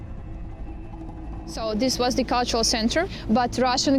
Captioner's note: in English